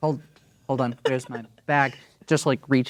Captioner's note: laughing